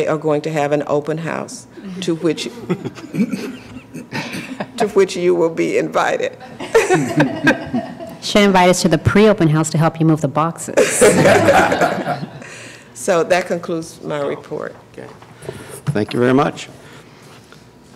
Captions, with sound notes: open house to which you will be invited. (Laughter) »: It she invited us to the pre-open house to help move the boxes. (Laughter) »: So that concludes my report. »: Thank you very much.